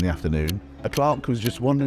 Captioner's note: clock ticks